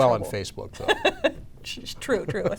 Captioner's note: laughing